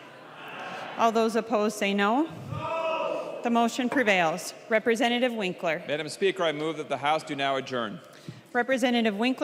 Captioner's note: chorus of ayes